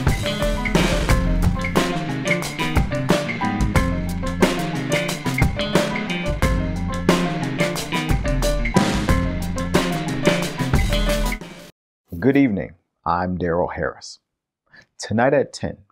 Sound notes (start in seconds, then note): none